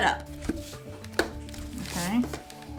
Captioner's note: tube clicking in